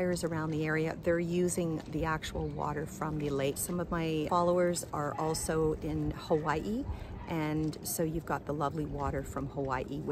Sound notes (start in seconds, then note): none